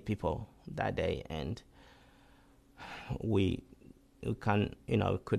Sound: sighs

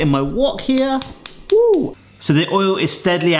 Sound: gas stove clicking

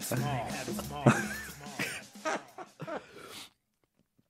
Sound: laughing

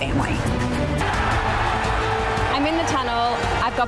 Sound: crowd roars

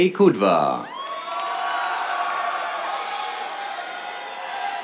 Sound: cheers, applause

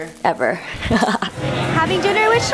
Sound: laughs

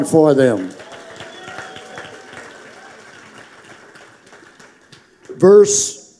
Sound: congregation applauding

